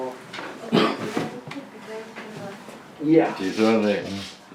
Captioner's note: tenants chatting in background